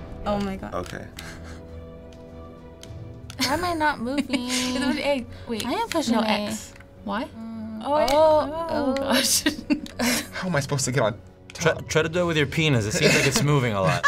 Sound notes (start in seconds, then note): 1.2 chuckles; 4.1 laughs; 7.4 humming; 9.0 laughs; 13.8 laughing